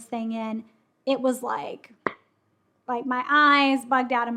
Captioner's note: cup popping